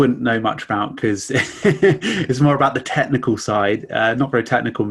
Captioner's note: chuckles